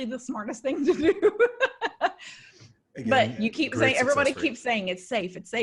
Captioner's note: laughs